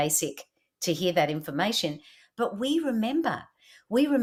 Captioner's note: voice-over